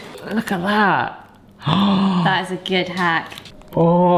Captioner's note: gasps in awe